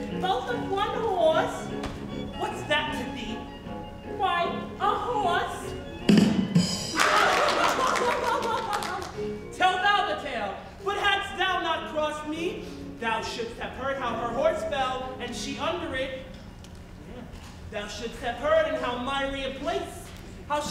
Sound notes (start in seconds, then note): 6.0 comic rimshot music; 7.0 group laughs